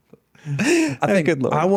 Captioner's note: laughing